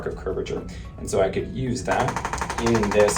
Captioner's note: ArthroStim tapping